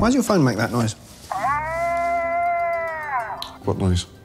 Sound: this guy moaned at least this loud

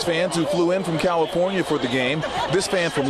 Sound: laughter

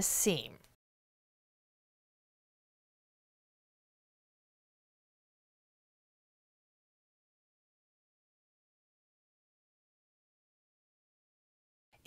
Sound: no Sound Present

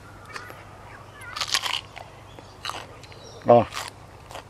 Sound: crunching

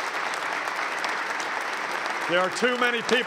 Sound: applause

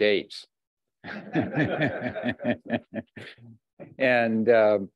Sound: laughter

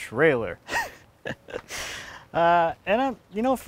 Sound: snickers

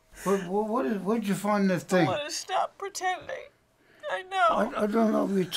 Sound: crying

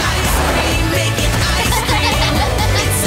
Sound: laughing

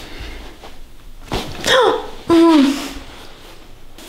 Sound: the girl screams after massage

